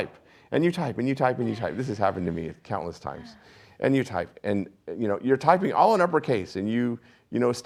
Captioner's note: laughs